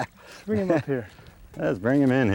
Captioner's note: laughter